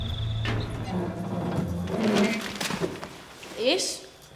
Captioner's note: door screeching